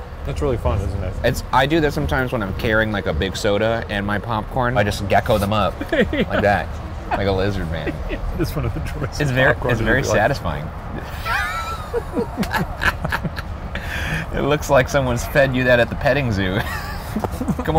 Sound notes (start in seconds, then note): 5.2 laughing; 10.9 Ryan and Shane laughing